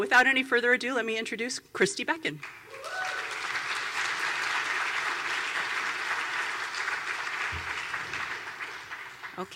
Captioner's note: applause